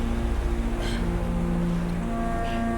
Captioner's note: grunt